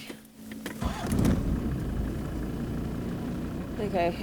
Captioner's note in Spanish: motor zumbando